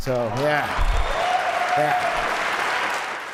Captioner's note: applause